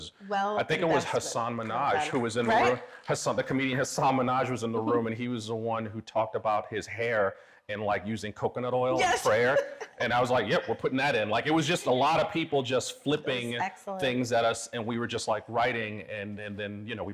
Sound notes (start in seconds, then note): 9.0 laughs